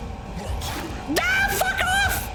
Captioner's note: monster grunts; slashing sound